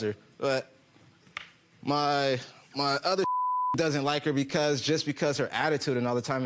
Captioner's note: beep